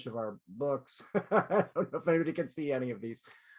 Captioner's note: laughter